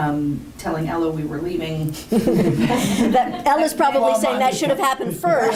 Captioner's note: laughter